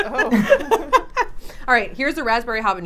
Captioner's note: laughs